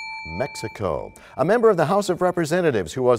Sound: bell rings, time expires

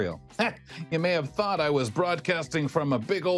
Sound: laughs

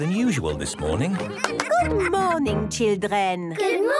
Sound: claps

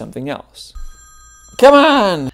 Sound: phone ringing

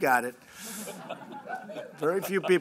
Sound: laughter

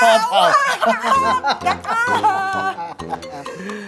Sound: laughing

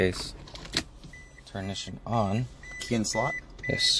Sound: car beeping

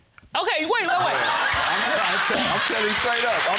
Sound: audience laughing

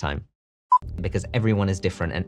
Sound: beep

